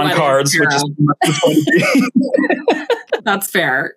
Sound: both laugh

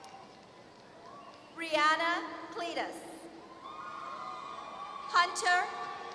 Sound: applause

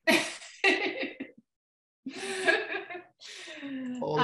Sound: laughs

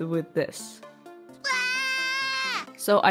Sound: scream

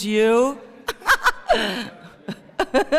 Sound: laughter

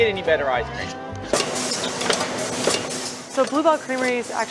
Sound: clunking

